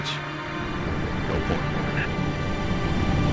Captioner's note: radio